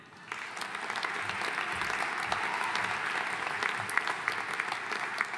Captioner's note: audience cheering and applauding